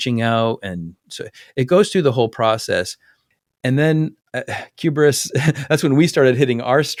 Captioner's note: laugh